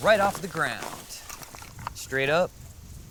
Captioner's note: leaves rustling